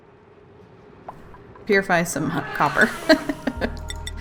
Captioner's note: laughs